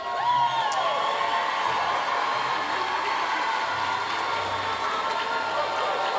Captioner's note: audience cheering and applauding